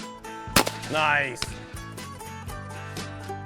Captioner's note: gunfire shot